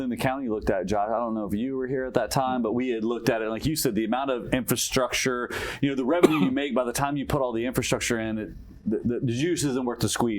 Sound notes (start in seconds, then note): 6.2 cough